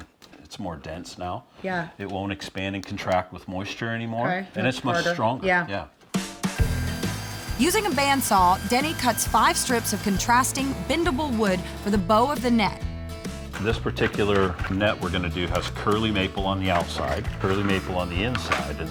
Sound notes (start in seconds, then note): 6.6 sawing